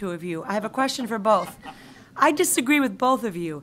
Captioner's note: group laughs